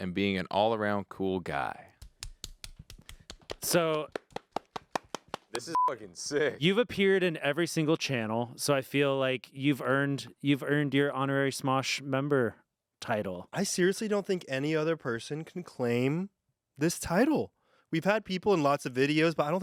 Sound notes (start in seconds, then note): 2.0 clapping; 5.7 beep